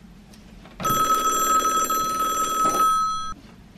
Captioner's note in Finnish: Puhelimen pirinää